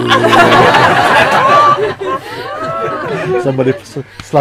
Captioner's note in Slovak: Smiech